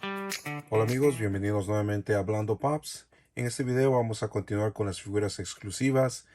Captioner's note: talking